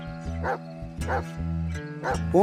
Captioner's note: dogs Barking